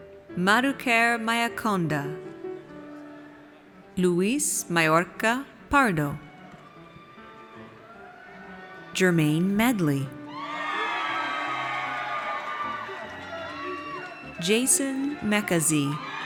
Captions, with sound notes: Madhukar Mayakonda. Luis Mayorca Pardo. Jermaine Medley. (audience cheers) Jason Meka-Ze.